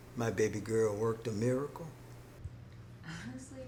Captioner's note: none